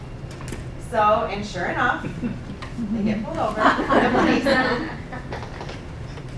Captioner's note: laughing